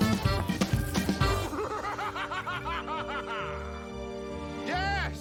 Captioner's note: Маниакальный смех Доктора Дпораута